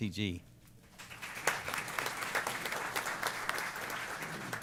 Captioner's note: applause